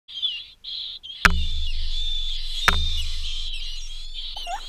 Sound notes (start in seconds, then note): 0.1 birds noises